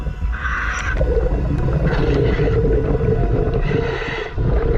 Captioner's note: water bubbling